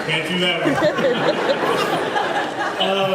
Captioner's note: laughs